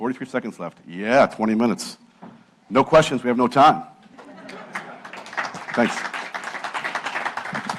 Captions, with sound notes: 43 seconds left, yeah, 20 minutes. No questions, we have no time. >> [LAUGH] [APPLAUSE] >> Thanks.